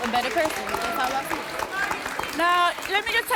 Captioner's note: applause